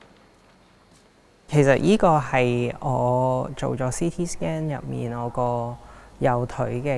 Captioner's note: Cantonese